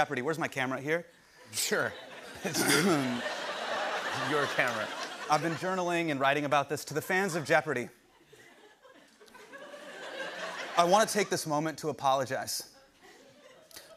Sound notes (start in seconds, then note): 1.5 laughter